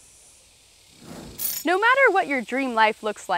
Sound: screen whooshing

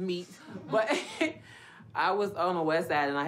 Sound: laughs

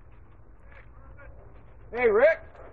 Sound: people shouting in the distance

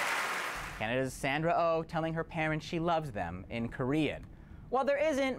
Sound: applause

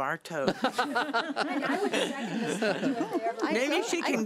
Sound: laughs

